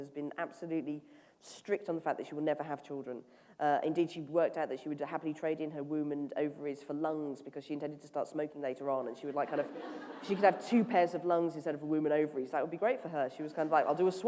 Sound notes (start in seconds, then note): 9.4 laughter